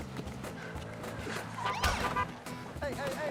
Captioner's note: police siren chirps